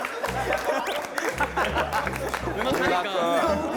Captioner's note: cracks up